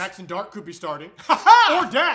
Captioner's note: weird laughter